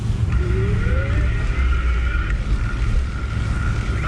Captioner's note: bike whining